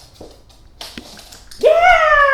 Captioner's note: click-click